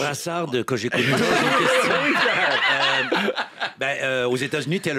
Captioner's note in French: rires